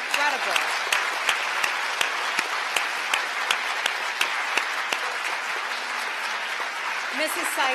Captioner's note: applause